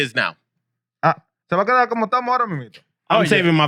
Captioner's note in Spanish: Hablando en idioma extranjero